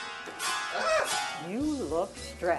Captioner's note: screams